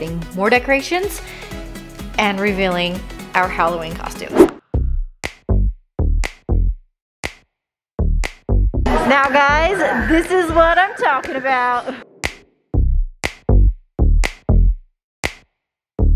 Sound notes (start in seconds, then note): 4.3 wooshing turn